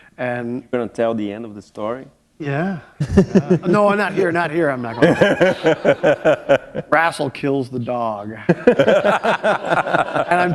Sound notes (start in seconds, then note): 4.9 laughter; 8.4 laughter